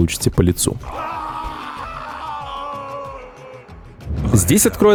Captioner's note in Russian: крики умирающего героя